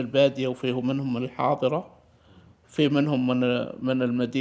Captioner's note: speaking in Arabic